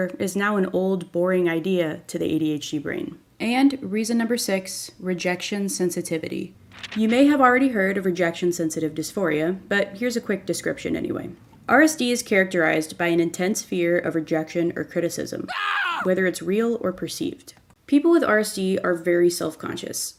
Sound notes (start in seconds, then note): 15.4 screams